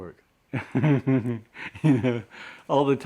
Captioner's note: laughs